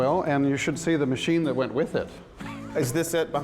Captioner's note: laughs